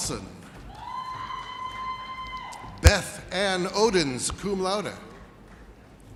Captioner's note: woman cheering